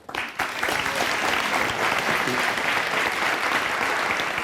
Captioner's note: audience clapping